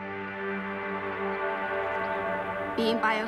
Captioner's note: birds twitter